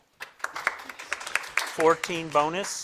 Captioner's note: crowd claps